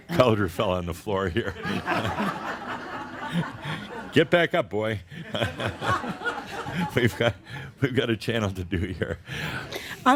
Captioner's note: chuckling; more laughter; Adamus chuckles